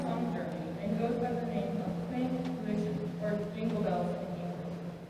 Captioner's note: german